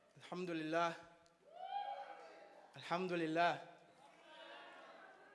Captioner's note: speaking in foreign language